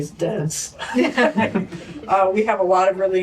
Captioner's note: laughter